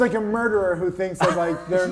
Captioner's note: laughing